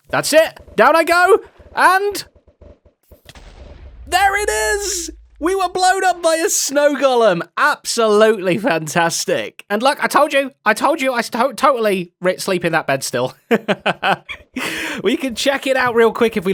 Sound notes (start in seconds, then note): 13.5 laughs